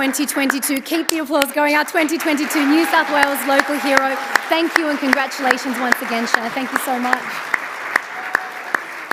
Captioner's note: applause